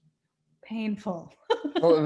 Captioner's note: laughs